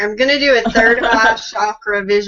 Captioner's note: chuckles